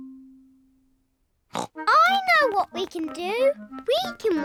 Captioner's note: snorts